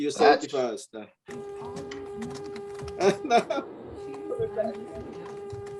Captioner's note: laughs